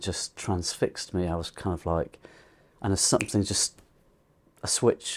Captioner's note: snaps